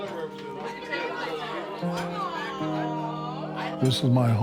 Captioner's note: somber music; crowd simultaneous chatter